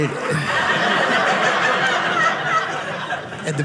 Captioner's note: audience laughing